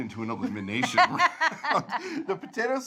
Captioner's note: both laugh